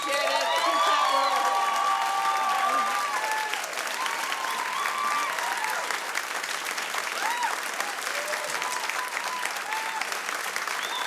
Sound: audience applauds

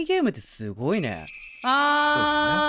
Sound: ringing of bells

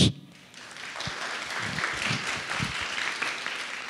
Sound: audience applauds

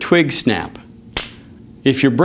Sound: snap

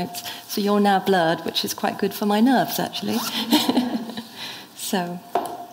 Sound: laughs

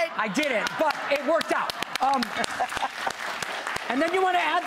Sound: audience clapping

